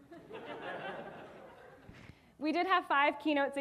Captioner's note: audience laughing